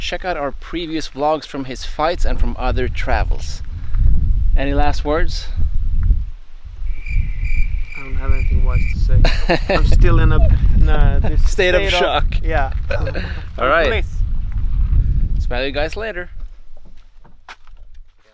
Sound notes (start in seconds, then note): 6.5 cricket chirping; 9.2 laughing